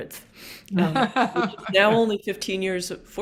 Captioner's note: laughing